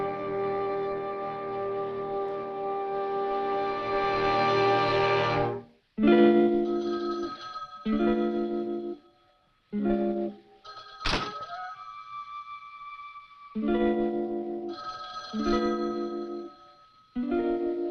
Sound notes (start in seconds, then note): 6.3 uneasy music; 6.6 phone rings